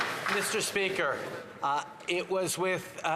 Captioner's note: applause